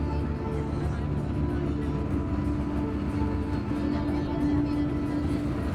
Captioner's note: bus rumbling over the road